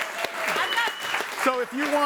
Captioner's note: audience applauds